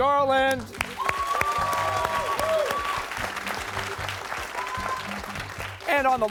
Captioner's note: cheers and applause